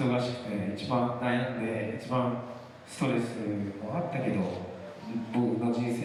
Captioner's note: speaking foreign language